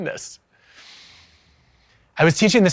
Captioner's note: takes a breath